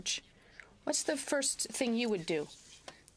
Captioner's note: speaking French